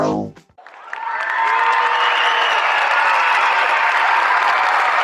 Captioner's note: audience cheering